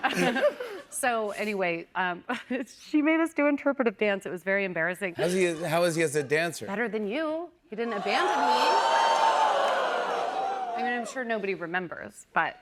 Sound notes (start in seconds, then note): 7.8 audience exclaims